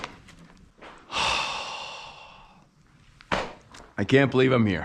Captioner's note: exhales sharply